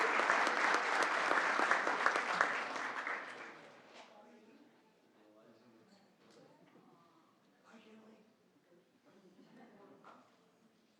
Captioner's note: applause